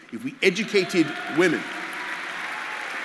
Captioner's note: applause